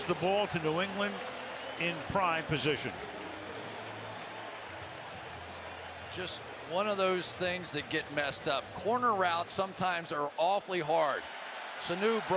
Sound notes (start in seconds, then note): 3.5 pa announcement